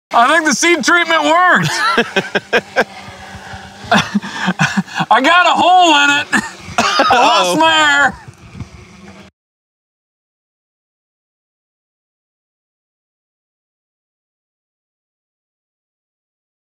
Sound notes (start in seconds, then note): 1.2 laughs